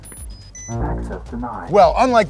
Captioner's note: robotic Voice